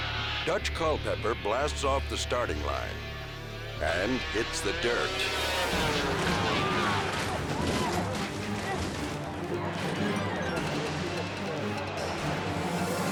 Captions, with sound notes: Dutch Culpepper blasts off the starting line and hits the dirt. (snowmobile clattering) (audience gasping)